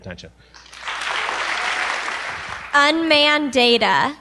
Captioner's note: applause